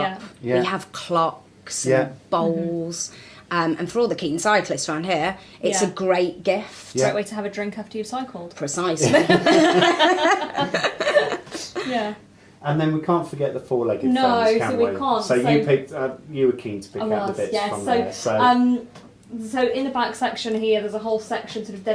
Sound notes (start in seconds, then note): 9.0 all laugh